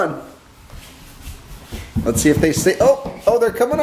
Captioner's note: stomping